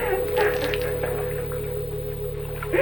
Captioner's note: water pouring